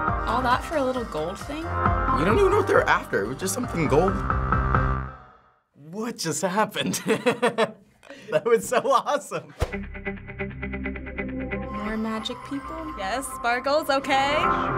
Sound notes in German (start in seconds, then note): 6.8 lacht; 14.5 Gesang auf Japanisch